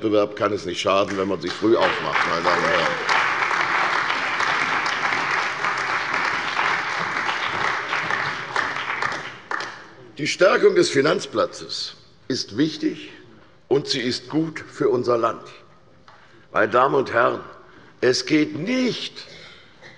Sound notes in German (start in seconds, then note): 4.0 Beifall bei der CDU und dem BÜNDNIS 90/DIE GRÜNEN